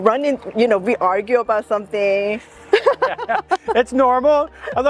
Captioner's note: laughs